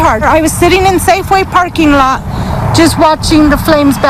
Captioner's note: sound of wind